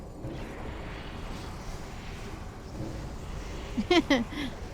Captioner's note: laughing